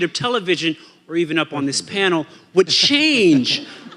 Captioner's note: audience laughing